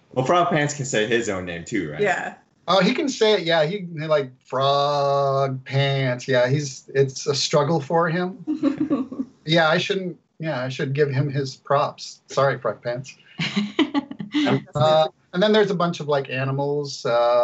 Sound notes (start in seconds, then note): 13.4 laughs